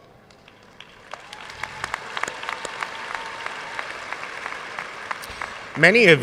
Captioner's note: audience cheering and applauding